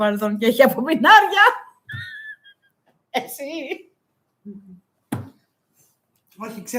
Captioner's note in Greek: γέλια